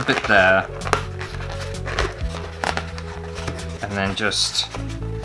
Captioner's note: balloon Squeaks